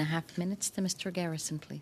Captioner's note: speaking French